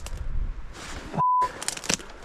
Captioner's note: beep